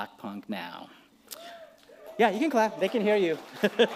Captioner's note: cheering; applause; laughs